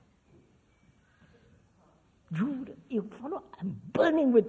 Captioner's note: laughs